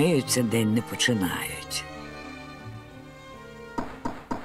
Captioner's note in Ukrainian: стукіт у двері